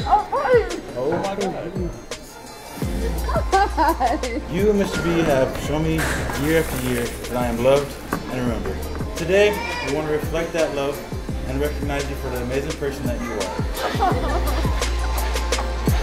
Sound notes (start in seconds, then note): 3.0 laughs